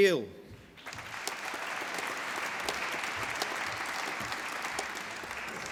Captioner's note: applause